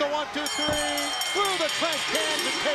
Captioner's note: bell ringing